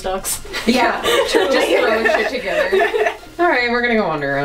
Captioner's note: laughter